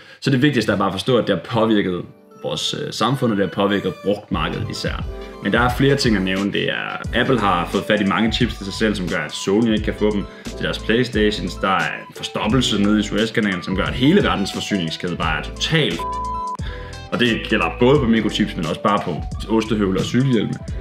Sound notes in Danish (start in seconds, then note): 16.0 bip